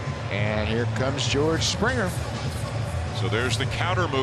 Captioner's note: applause